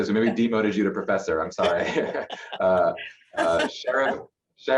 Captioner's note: laughter